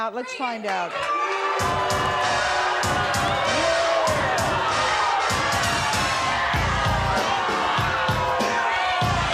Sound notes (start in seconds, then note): 1.1 hip-hop music plays; 2.5 audience jeers